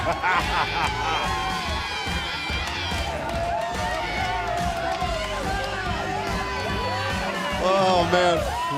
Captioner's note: laughing